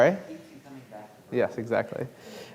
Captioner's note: speaking faintly